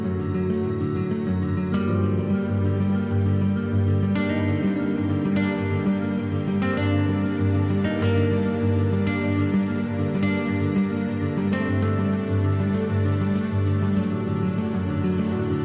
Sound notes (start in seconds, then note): none